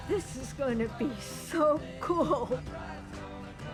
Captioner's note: laughing